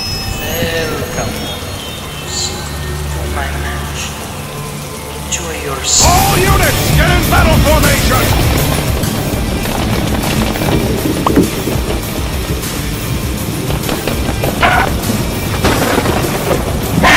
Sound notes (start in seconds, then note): 10.0 thunder Rolling; 15.2 Mc Dracula Reveals himself again with Thunder Clapping